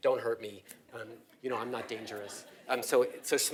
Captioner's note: laugh